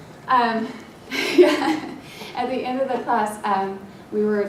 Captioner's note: laugh